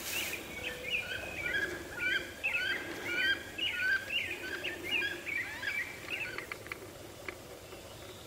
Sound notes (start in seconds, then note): 0.9 turkeys gobbling